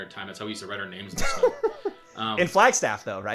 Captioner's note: laughing